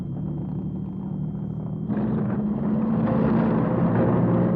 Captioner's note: engines revving